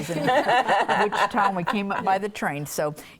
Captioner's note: laughing